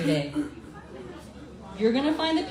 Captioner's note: crowd mumbling